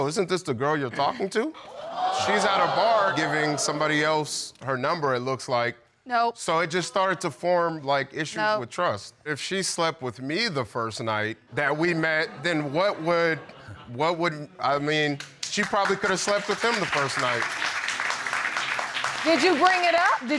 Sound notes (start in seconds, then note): 12.1 audience clapping